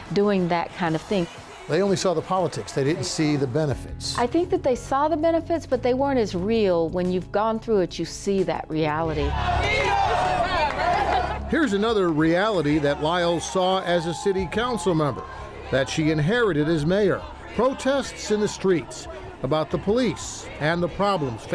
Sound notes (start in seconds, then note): 10.0 crowd shouting